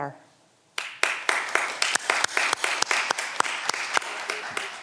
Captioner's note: audience applause